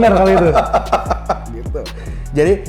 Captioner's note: laugh